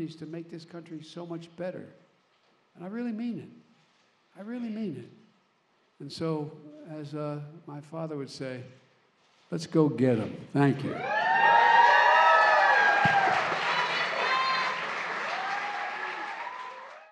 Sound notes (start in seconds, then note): 11.1 applause